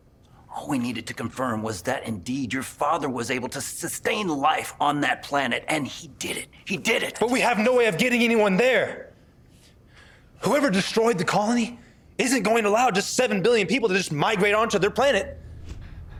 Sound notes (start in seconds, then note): none